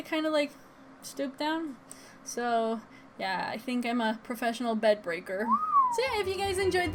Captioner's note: comedic whistle; tropical music plays